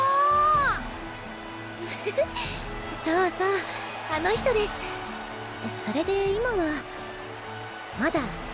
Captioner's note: laugh